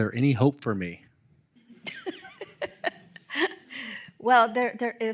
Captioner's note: laughing